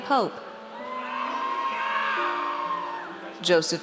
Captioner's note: audience cheers